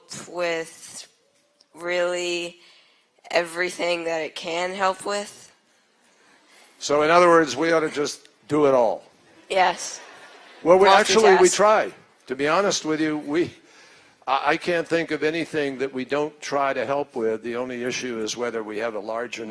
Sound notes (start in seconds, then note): 9.9 laughter